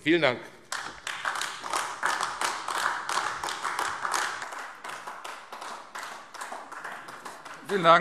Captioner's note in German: Beifall AfD